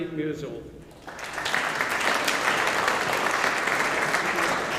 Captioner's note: audience applauding